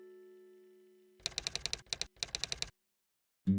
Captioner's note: typewriter sounds